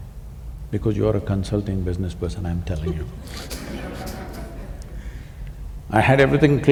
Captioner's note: laughter